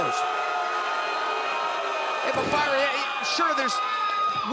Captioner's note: crowd chatter